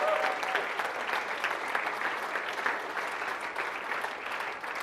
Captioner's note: audience applauding